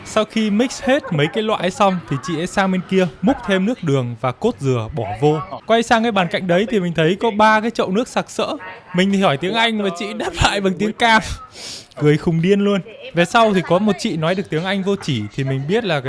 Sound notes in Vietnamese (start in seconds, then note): 11.2 khịt mũi